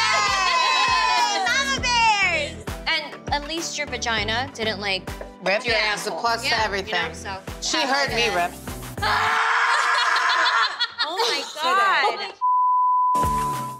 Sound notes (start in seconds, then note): 0.0 women cheering; 9.0 woman screams; 12.4 beep; 13.2 women laughing